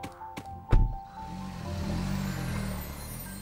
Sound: car engine revving; upbeat calm music

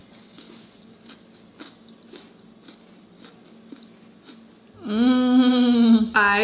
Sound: caramel apple bark crunching softly

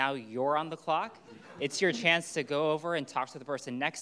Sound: audience laughing

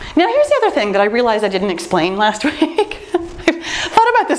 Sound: laughs

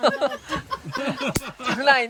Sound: laughing

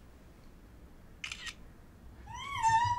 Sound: camera clicks; squeels

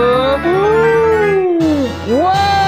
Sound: gasps

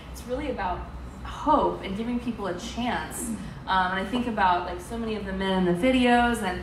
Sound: none

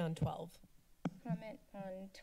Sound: mic Thump

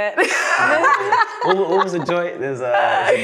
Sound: laughing

